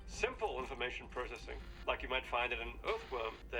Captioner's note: none